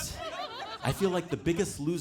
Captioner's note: audience laughing